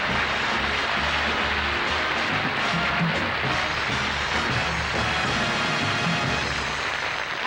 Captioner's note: applause